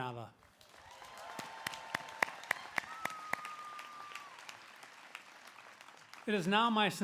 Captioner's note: applause